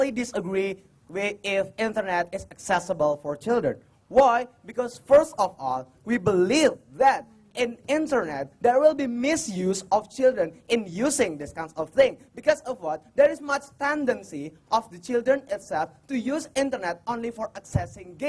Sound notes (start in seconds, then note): none